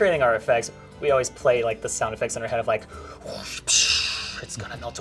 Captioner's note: mimics whoosh